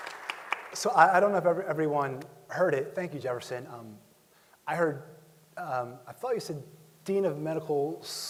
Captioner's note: applause